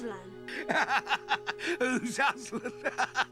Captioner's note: laughing